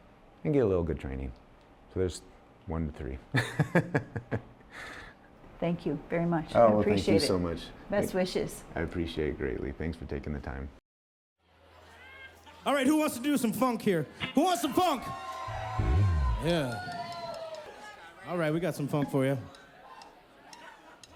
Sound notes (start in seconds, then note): 14.3 cheering